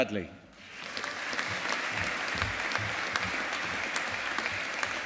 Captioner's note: audience applauding